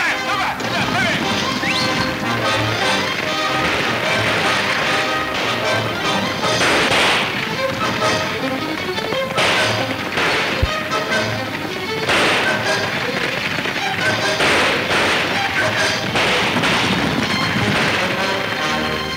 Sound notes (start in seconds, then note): 2.6 guns firing; 5.6 exciting orchestra music